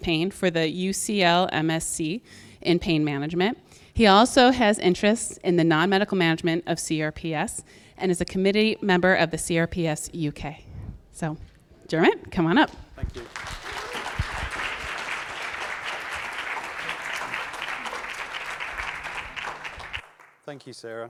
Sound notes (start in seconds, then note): 12.1 audience clapping